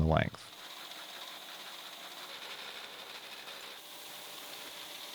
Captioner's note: machine whirring